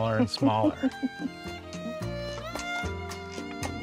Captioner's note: laughs